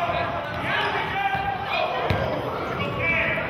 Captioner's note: yelling